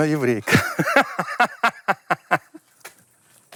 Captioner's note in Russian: смеется